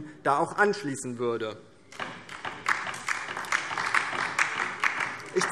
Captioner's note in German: Beifall DIE LINKE